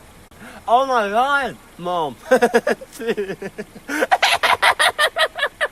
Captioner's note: laughing